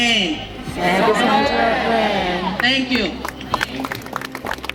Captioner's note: crowd